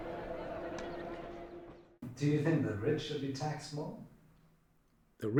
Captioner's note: voiceover